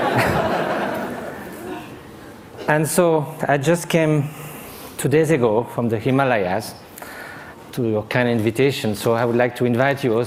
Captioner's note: laughter